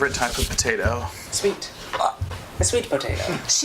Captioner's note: make a noise of horror and bewilderment